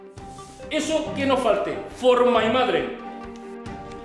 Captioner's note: fake German